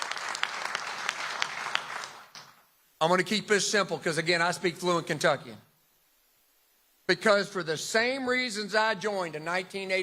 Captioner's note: applause